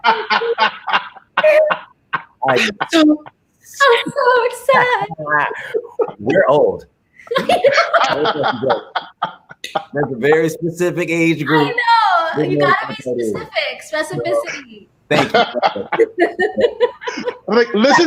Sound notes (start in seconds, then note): 0.3 laughing; 7.2 all laughing; 15.1 all laughing